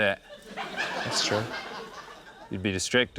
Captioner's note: laughter